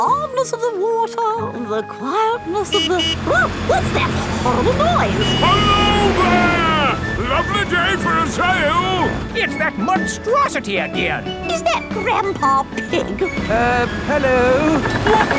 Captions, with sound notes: The calmness of the water, the quietness of the... (HONKING) Oh! What's that horrible noise? Hello there! Lovely day for a sail! It's that monstrosity again! Is that Grandpa Pig? Uh... Hello.